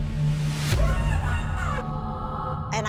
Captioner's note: muffled screaming